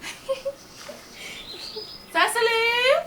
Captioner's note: Cecily giggles